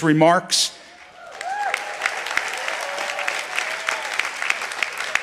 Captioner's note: audience applauding